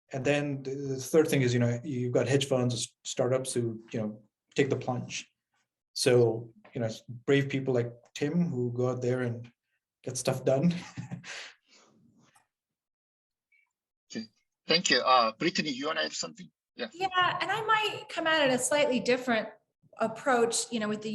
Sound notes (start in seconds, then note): 10.7 chuckles